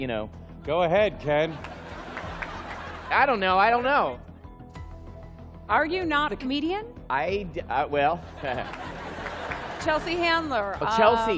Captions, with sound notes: Go ahead, Ken. [laughing] I don't know. I don't know. Are you not a comedian? I-- uh, well-- Chelsea Handler. Chelsea. Um--